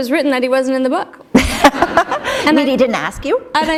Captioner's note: laughter